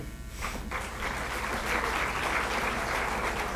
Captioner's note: applause